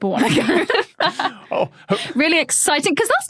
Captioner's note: group laughing